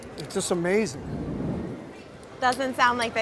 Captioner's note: soft wooshing